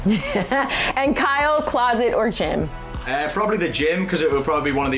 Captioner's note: laughing